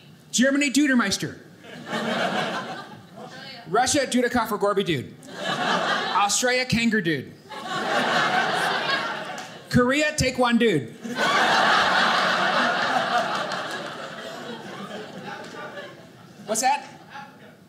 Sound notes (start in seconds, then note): 7.5 audience laughing; 11.0 audience laughing